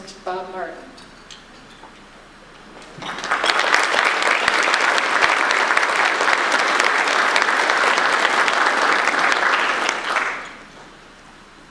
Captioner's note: audience applause